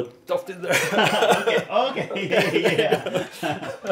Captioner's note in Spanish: risas